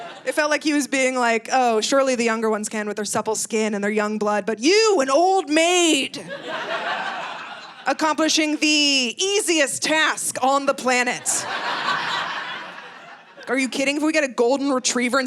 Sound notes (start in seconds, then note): 11.1 audience laughing